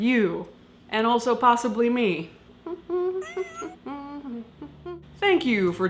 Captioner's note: humming